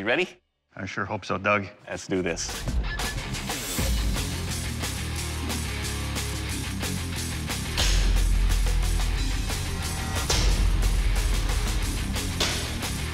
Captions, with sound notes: I sure hope so, Doug. Let's do this. [heavy metal music] [blade impact sounds]